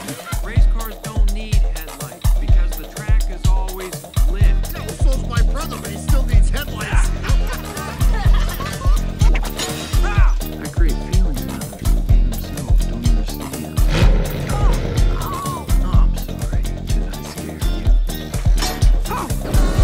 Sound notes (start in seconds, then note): 6.8 laughter; 13.8 revs Engine